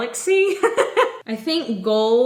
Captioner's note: giggles